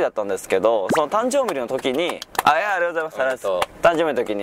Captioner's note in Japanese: 拍手